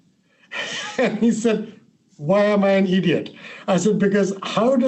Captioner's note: laughing